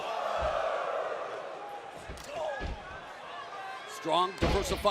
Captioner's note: crowd chatter